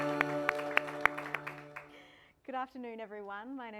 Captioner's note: audience applauding